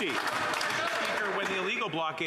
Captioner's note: applause